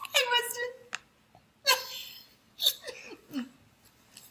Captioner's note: laughter